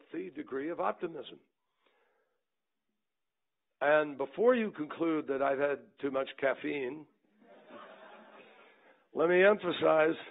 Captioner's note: laughter